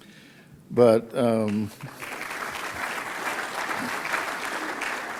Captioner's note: audience claps